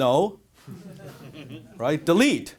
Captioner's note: audience laughter